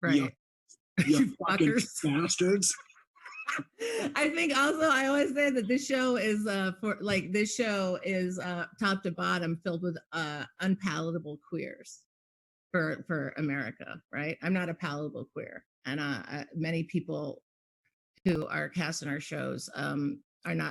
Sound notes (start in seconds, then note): 3.2 laughing